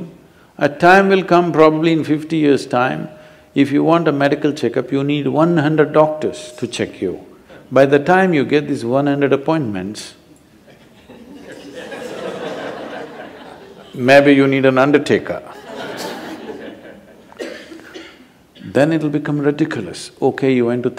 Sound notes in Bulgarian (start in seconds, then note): 13.4 смях